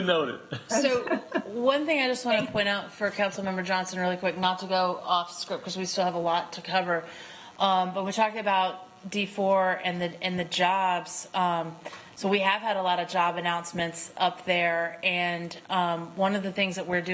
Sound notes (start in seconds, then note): 0.6 laughter